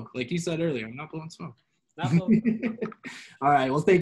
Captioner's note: laughs